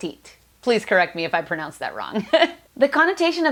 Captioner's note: laughs